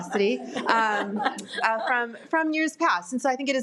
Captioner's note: audience laughs